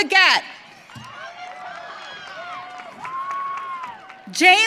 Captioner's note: audience cheering